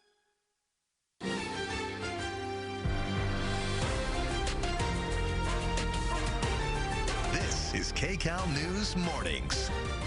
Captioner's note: cheering and applause